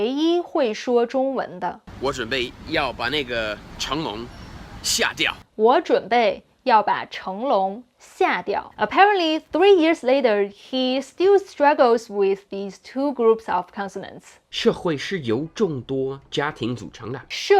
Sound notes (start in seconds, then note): 1.9 speaking in Mandarin; 14.6 speaking in Mandarin